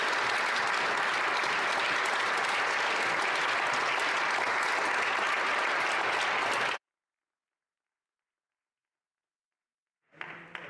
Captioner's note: applause